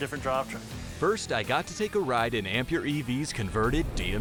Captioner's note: voiceover